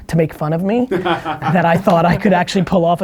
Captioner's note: laughing